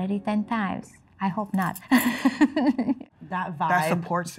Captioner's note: laughing